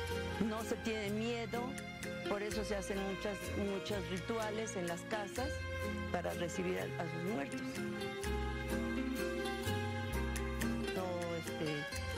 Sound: speaking spanish

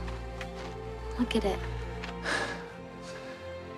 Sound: sighs

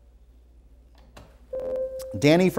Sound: buzzer

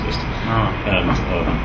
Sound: laughs

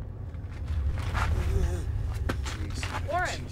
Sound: man moans

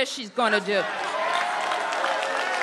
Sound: applause

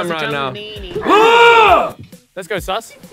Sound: yells

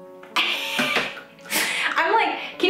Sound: laughs

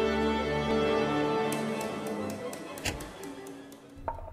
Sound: baton taps; tapping on small drum

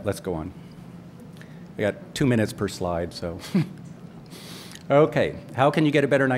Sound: laughs

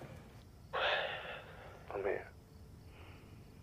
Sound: exhales

